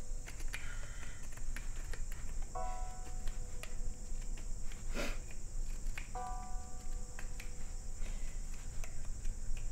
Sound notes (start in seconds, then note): 1.2 birds chirping; 4.5 gentle music